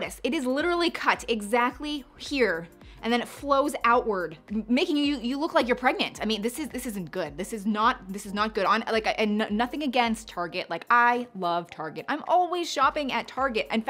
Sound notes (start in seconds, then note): none